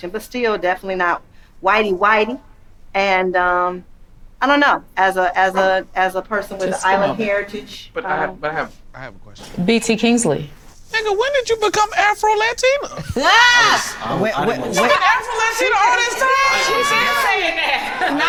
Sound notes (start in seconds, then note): 13.2 yelling